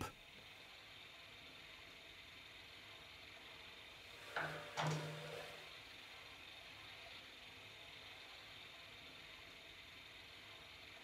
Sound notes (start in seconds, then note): 4.1 clinking